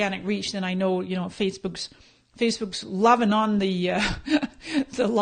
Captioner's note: laughing